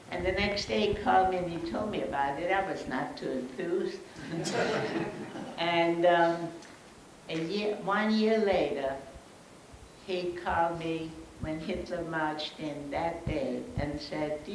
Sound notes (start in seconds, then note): 4.2 audience laughs